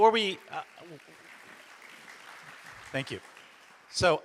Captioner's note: audience applauds